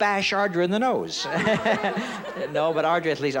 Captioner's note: giggles